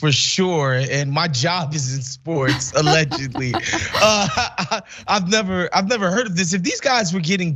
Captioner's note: laugh